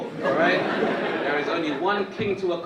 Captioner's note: audience laughing